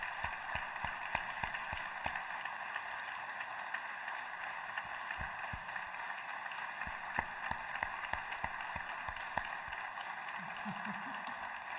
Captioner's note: applause